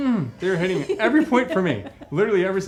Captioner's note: laughing